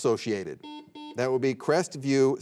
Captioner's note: buzzer beeping